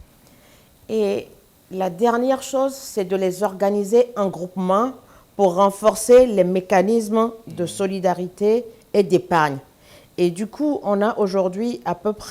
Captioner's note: speaking french